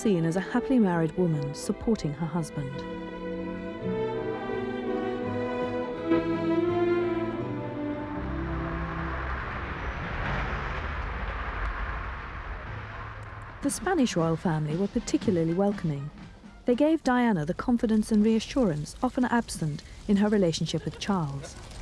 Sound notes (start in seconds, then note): 8.1 car engine running